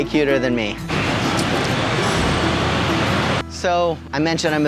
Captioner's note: gentle music; air whooshing